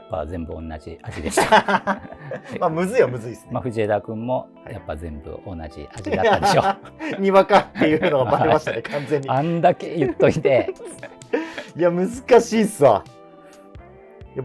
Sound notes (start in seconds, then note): 1.1 laughing; 11.1 laughing